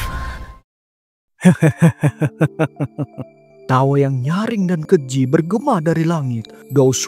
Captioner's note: laugh